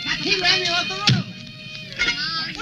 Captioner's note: speaking in foreign language